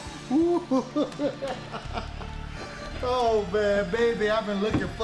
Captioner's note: The Cat laughs